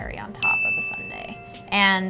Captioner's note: dinging